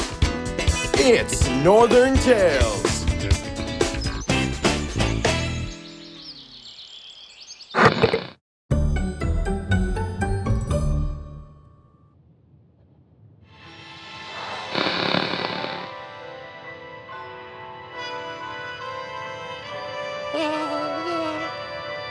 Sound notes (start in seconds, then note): 14.5 TV Static